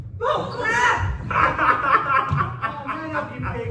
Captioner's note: William laughs